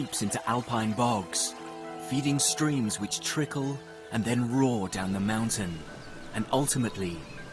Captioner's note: birds chirping; peaceful music continues